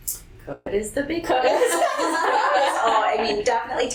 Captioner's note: laughter